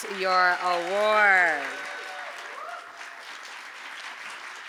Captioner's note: applause